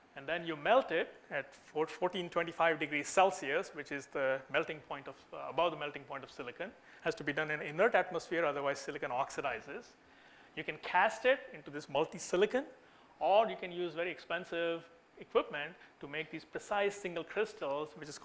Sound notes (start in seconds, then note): none